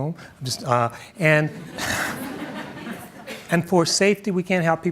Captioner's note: audience chuckles